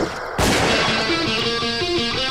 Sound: gunshot blast

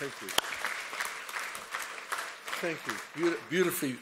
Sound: applause

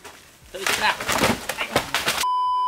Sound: crack sound

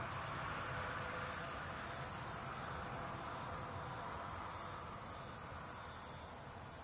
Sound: various insect noises

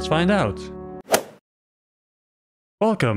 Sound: golf ball hit sound

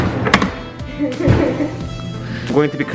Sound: laughs

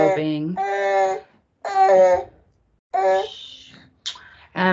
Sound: baby cries

